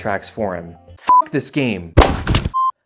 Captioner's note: controller hits floor hard